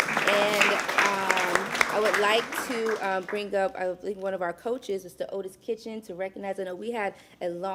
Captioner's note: applause